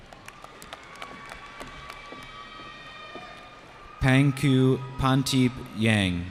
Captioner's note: cheering